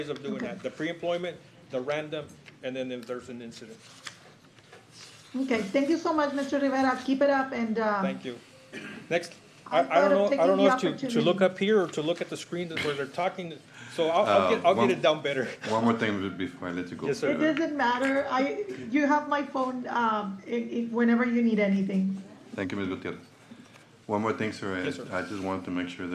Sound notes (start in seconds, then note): 8.7 clears throat